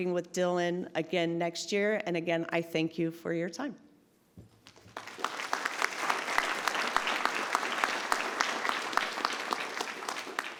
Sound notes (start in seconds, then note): 4.7 audience applauds